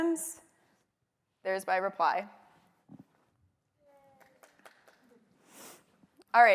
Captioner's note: applause